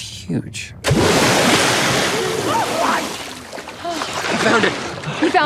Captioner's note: water splashes